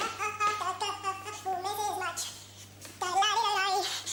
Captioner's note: humming